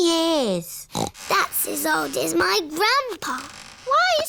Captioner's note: snorts